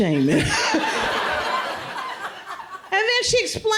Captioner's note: crowd laughs